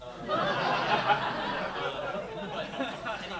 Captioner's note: laughter